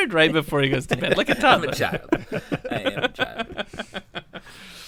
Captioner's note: laughter